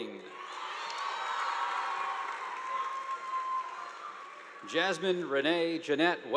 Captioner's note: students cheering; audience applauding